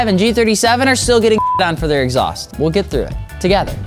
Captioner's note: beep